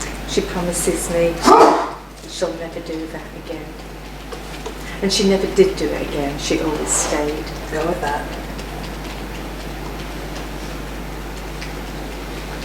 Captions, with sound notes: - She promises me, she'll never do that again. And she never did do it again. She always stayed. - Go with that. (tapping)